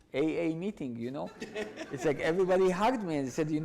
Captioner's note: audience laughs